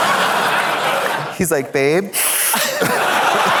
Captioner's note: audience laughs; sniffs; audience laughs